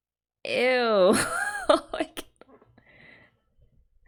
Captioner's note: laughs